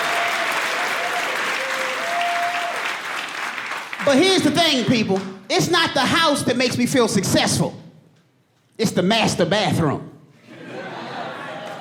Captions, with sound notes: But, here's the thing, people. It's not the house that makes me feel successful. It's the master bathroom. [AUDIENCE LAUGHING] It's spread out.